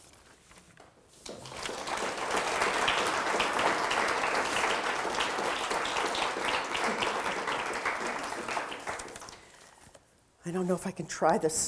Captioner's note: audience applause